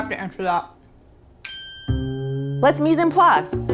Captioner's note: chiming